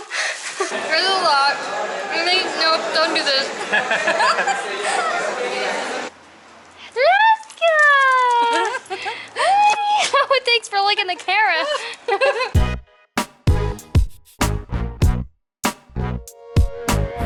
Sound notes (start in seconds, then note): 0.4 laughter